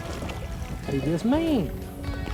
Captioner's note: splash